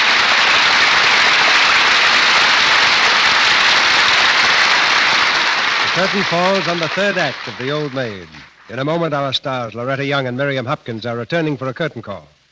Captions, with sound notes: (applause) The curtain falls on the third act of The Old Maid. In a moment, our stars, Loretta Young and Miriam Hopkins, are returning for a curtain call.